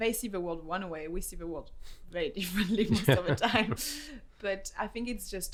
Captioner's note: laughs